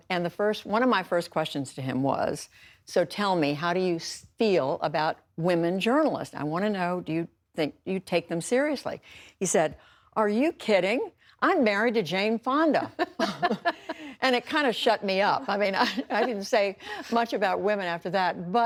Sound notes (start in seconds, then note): 12.8 laughter